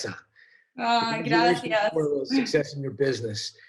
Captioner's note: speaks in foreign language